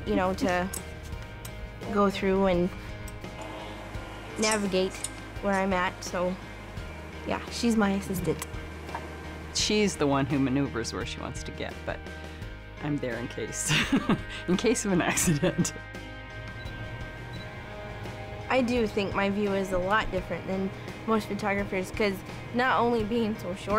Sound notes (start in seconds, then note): 13.4 laughs